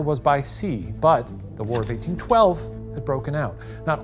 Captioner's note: projector clicking